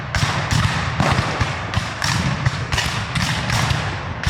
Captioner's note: guns fire